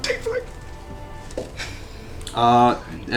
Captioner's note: whispers